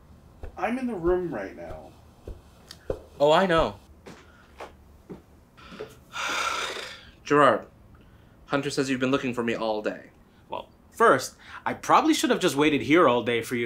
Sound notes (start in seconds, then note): none